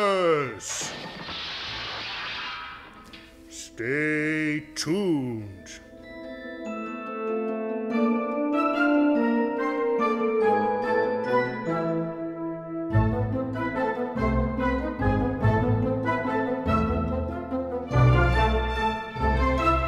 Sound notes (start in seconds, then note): 0.7 crashing plates